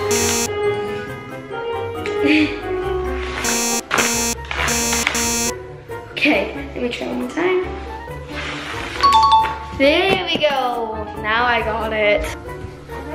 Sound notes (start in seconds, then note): 0.1 beeps; 2.8 beeps repeatedly; 9.1 bell rings